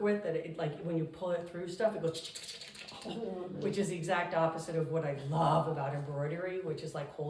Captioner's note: scratching noises